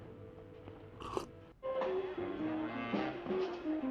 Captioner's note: slurp